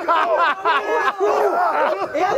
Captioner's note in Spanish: ríen y gritan